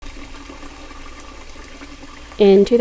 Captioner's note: water running